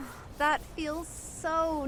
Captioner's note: moans